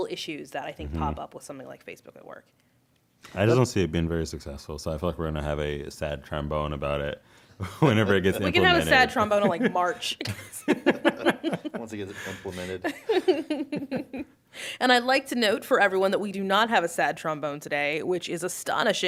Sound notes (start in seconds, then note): 7.6 laughing; 7.6 laughter